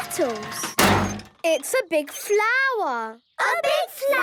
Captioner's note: crane beeping